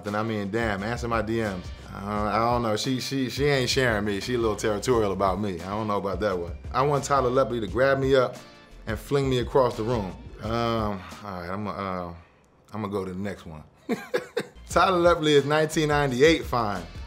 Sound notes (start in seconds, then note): 10.6 sighing; 13.9 laughing